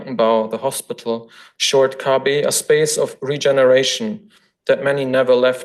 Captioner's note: foreign language; foreign language